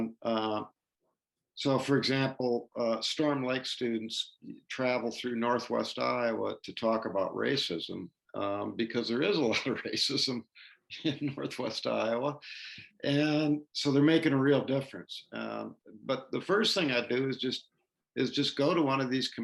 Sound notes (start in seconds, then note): 11.0 laughter